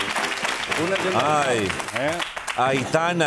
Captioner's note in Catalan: aplaudiments